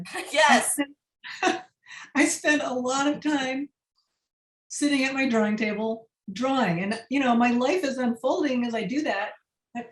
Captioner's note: laughter